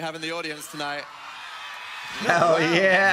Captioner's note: audience cheering